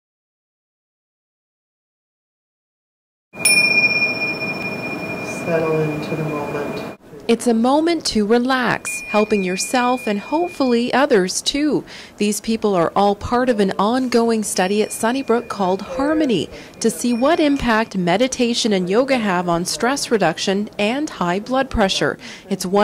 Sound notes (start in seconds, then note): 3.4 chime